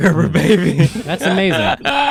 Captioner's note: laughs